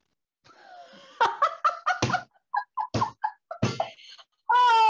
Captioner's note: Morgan Laughs